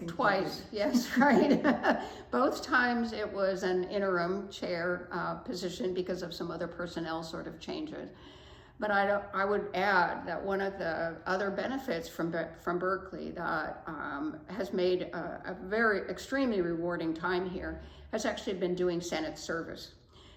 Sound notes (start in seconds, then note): 0.9 laughs